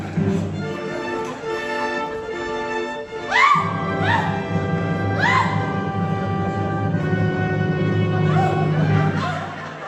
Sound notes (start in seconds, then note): 3.0 INEZ screams under DON ALHAMBRA's torture devices; 8.0 laughter, music pauses